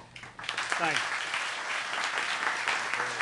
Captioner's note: applause